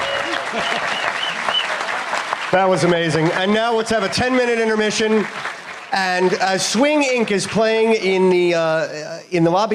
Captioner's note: applause